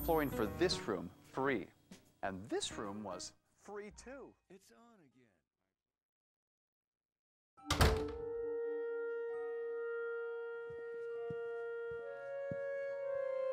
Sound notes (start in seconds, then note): 7.6 door slams